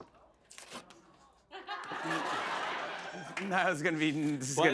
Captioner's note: laughter